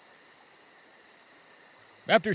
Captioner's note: night sounds come up